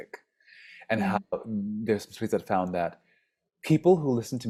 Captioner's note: speaks faintly